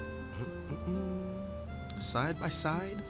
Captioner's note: soft music; humming